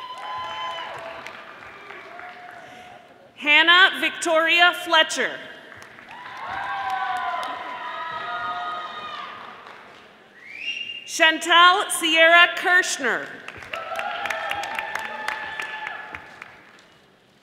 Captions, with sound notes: (audience applauding) Hannah Victoria Fletcher, (audience applauding) Chantal Sierra Kerschner, (audience applauding)